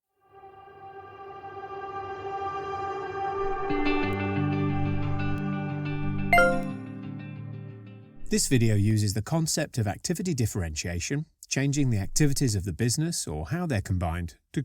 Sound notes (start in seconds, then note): 0.4 intro music; 6.3 ping